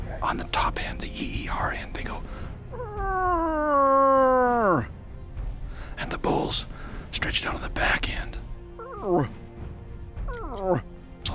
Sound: eEERRugh; erUGGH

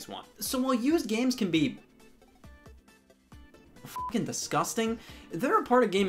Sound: beep

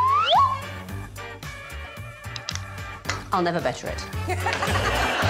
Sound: swanee whistle warbling; upbeat music; audience laughing

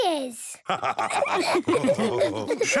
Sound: all laughing

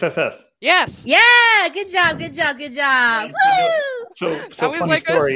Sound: cheers

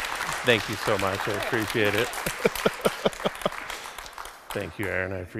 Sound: crowd applauds; giggles; giggles

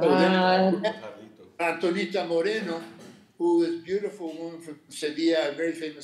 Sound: speaking Spanish

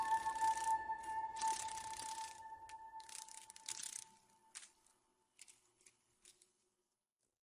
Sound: insect wings

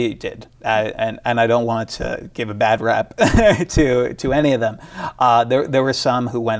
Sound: laughs

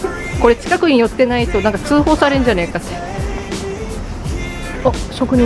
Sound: laughs

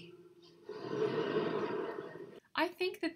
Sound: crowd laughs

